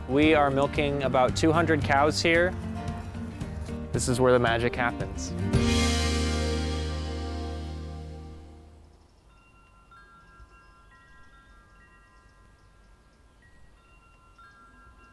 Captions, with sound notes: We are milking about 200 cows here. This is where the magic happens. (chimes ringing)